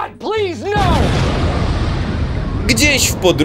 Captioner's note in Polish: boom!